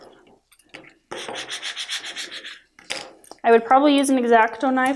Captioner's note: rubbing